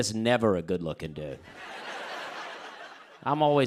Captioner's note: laughter